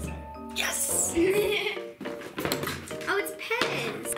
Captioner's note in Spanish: ríe